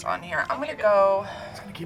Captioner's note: hums